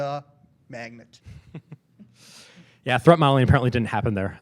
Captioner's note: laughing